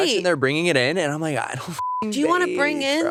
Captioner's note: beep